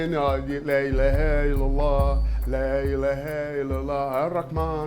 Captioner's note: speaking foreign language